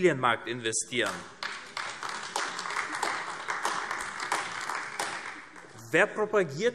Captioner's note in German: Beifall AfD